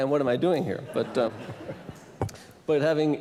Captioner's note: laughter